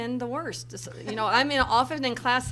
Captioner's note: laughter from crowd